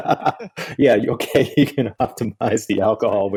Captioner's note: laughs